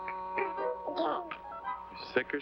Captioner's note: baby burbles